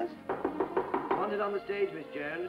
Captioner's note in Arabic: طرق الباب